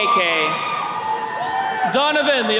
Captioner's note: attendees cheering